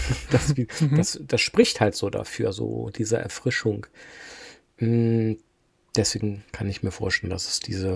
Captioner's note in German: gelächter